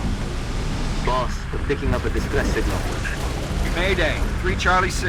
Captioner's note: radio